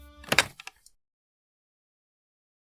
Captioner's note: Click of Angelica hanging up phone